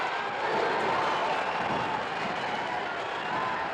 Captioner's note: crowd oohs